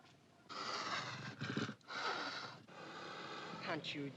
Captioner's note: tiger hisses